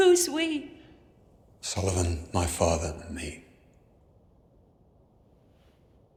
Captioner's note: none